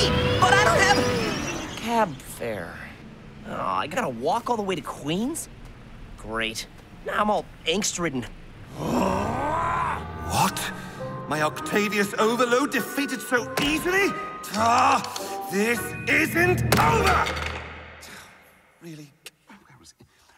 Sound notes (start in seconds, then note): 8.6 angry growl; 16.7 clattering